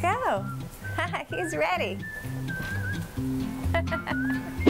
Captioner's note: chuckles